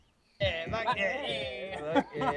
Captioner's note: laughing